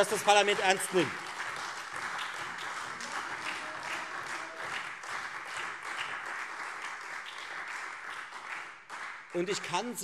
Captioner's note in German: Beifall Freie Demokraten, SPD, DIE LINKE und vereinzelt AfD